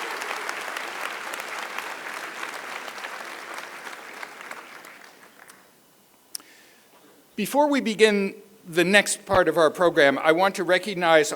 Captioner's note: applause